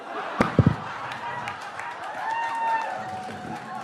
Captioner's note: audience laughs; mic drops; audience laughing; scattered applause